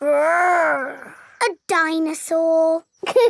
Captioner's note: growls